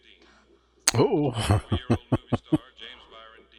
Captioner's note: chuckling